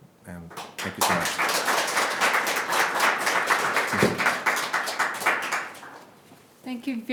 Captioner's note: audience Applauding